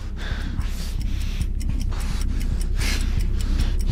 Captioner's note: clock ticking